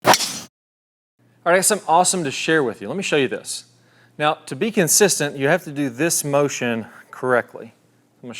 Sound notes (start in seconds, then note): 0.0 ball cracking